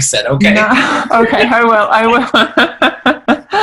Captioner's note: laughing